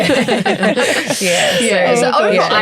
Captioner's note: everyone laughs